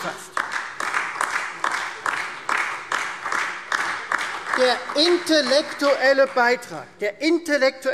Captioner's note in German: Beifall Freie Demokraten und vereinzelt SPD